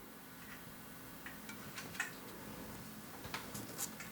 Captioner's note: fine whirring in the background